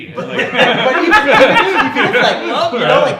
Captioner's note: laughing